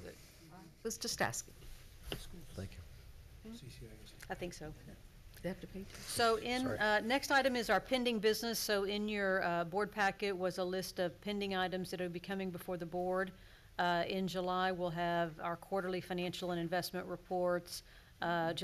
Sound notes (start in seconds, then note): 2.6 general murmuring